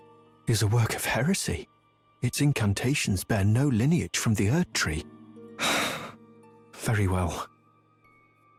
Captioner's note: sigh